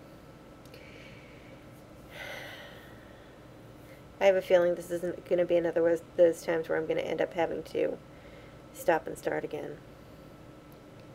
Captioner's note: sighs